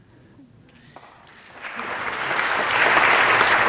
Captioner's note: applause